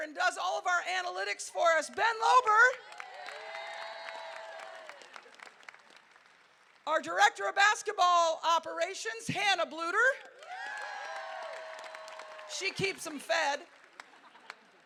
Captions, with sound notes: and does all of our analytics for us, Ben Lober. (crowd cheering) Our director of basketball operations, Hannah Bluder, she keeps 'em fed.